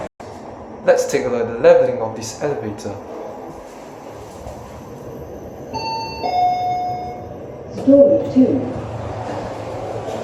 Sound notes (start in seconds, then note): 5.8 chime